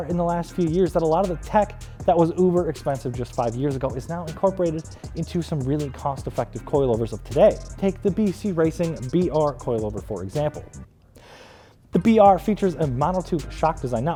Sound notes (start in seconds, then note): 11.1 inhales